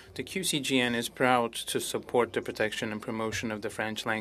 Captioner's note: speaking French